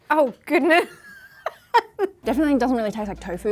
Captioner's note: laughs